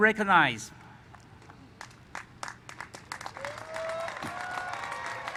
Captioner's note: applause